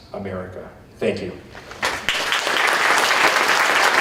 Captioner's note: applause